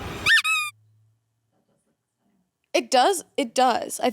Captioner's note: horn honks